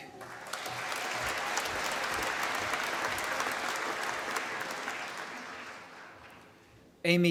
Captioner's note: applause